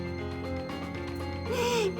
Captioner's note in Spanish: Sollozos